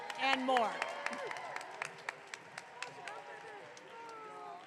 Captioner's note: audience clapping